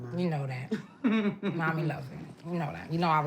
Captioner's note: laughing